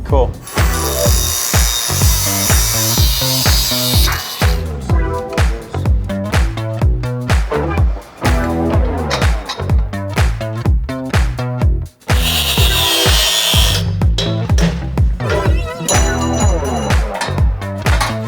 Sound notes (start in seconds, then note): 0.4 grinder rasping; 4.9 funky music; 12.0 grinder rasping; 14.5 hammer banging